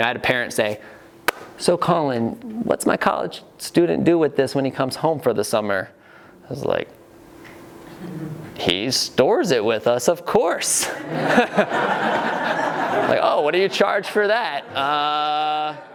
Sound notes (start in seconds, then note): 10.9 laughing